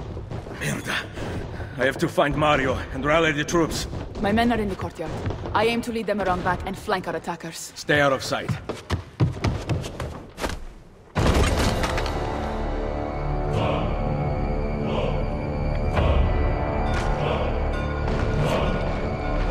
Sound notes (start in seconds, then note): 11.2 battle sounds; 17.7 bell ringing